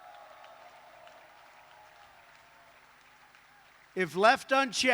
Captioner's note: applause